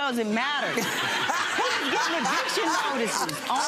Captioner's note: laughing